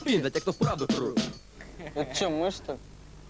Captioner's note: laughs